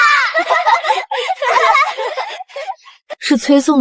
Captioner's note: laughter